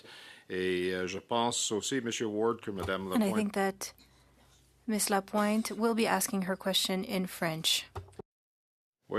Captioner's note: speaking French